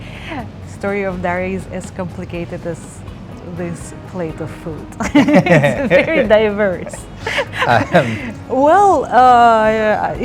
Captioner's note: laughing